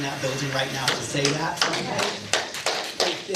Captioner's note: clappin